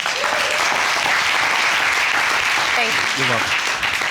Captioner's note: audience clapping